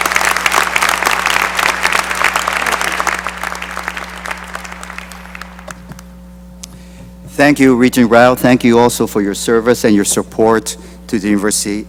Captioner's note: applause